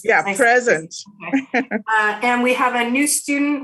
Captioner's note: laughs